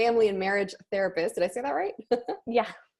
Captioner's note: laughs